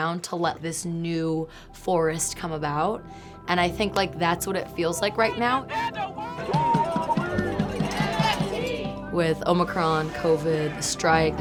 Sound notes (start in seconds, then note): 6.9 protesting shouting